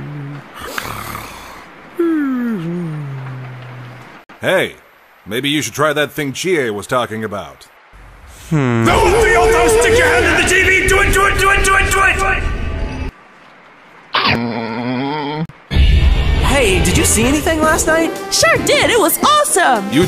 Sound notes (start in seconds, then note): 14.1 crunch